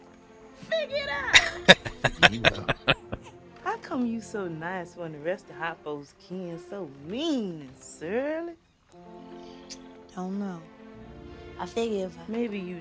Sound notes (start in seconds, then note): 1.3 laughing